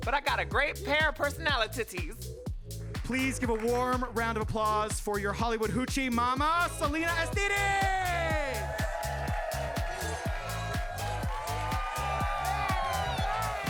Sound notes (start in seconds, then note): 7.4 audience cheering and clapping